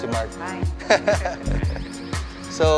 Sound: laughs

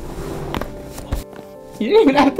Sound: bones cracking

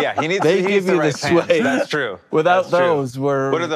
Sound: laughs

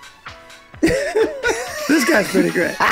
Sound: all laughing

